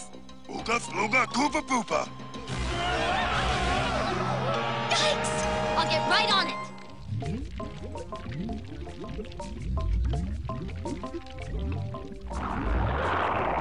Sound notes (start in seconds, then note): none